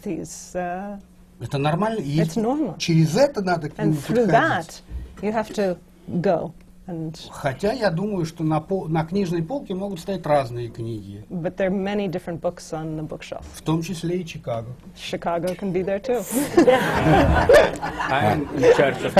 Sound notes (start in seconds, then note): 0.2 foreign language not transcribed; 19.0 laughter